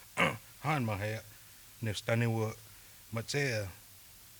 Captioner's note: speaking Cheyenne